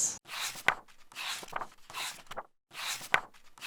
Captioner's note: pages turning